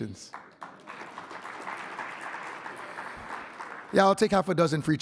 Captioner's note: audience applauding